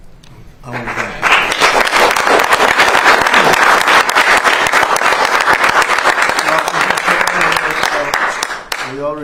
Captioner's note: applause